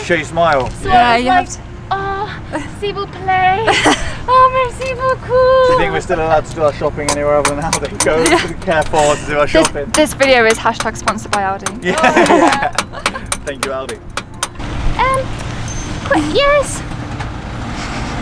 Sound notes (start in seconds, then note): 11.8 laughs